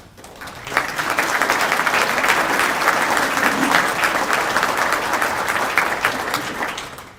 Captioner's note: applause